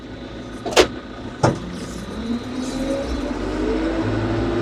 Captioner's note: machinery rumbles